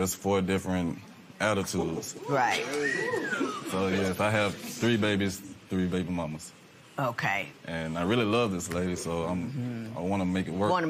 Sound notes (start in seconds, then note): 3.2 man whistles